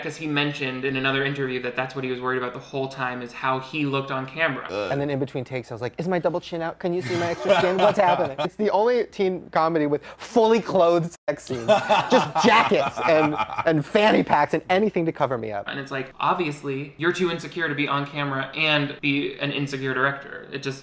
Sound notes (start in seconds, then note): 7.0 interviewer laughing